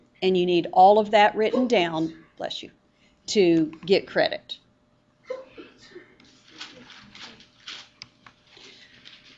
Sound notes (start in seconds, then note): 2.3 student sneezes; 5.3 student sneezes again